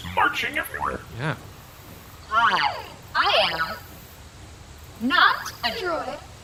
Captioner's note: in an obviously robotic voice